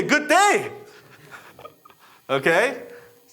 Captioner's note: laughing